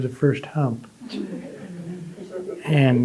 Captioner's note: audience laughing